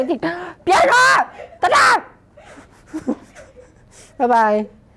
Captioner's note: shouts